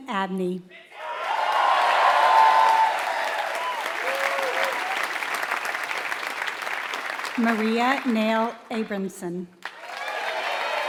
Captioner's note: applause